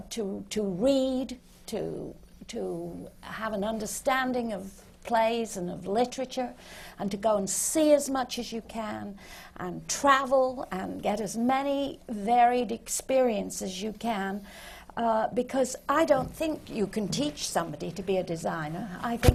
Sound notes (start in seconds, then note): none